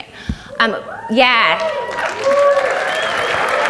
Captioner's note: audience cheers